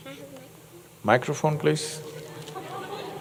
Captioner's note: laughter